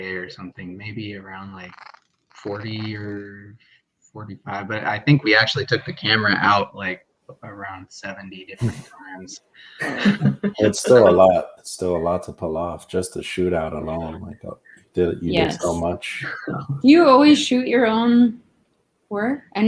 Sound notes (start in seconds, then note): 9.8 laughing